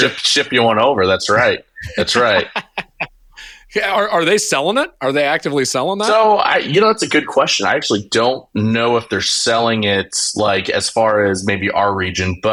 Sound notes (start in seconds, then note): 1.7 laughing